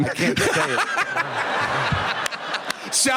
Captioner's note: laughter